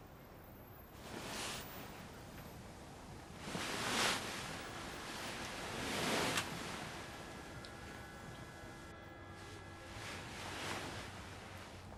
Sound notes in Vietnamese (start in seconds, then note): 6.6 tiếng còi hụ